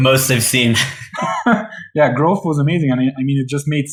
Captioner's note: laughs